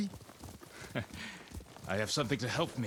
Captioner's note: laugh